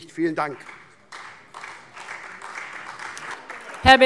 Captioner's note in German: Beifall SPD, Freie Demokraten und DIE LINKE